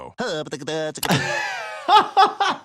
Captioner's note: Popeye stuttering; laughter